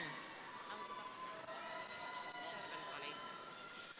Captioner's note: crowd cheering